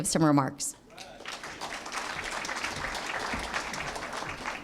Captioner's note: applause